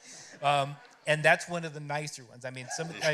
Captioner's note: laughter